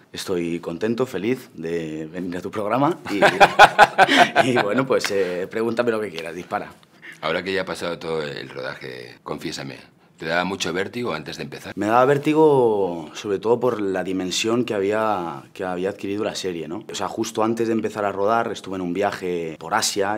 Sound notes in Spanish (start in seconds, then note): 3.0 Risas